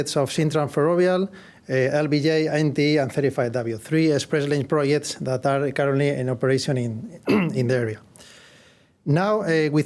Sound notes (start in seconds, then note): 7.2 cough